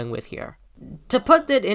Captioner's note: low grumble